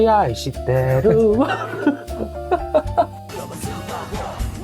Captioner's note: laugh